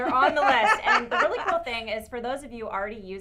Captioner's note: laugh